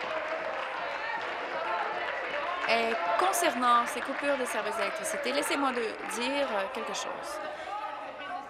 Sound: applause

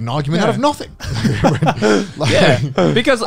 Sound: everyone laughs

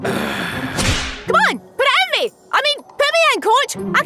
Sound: Ban sighing; hand whooshing

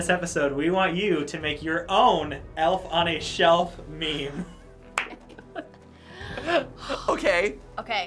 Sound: laughing

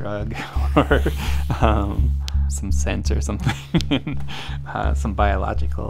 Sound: laughs

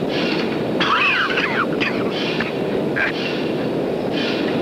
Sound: coughs; machinery clanging and whooshing

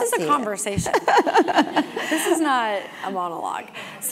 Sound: laugh

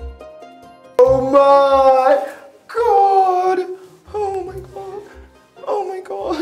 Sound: crying

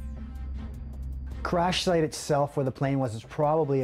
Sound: voiceover

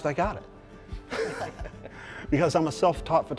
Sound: laughter

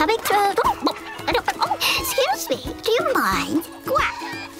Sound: bwok bwok

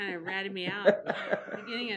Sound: laughing

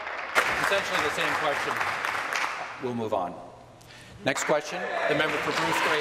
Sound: applause

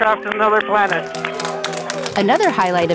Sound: team cheering and applauding

